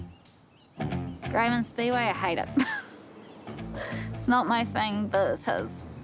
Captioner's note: laughs